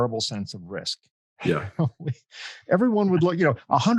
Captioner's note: laughs